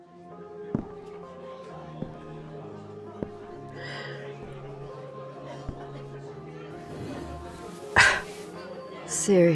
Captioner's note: club ambience, footsteps walking then stopping. You sit; scoff